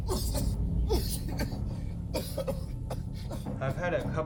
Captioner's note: coughing continues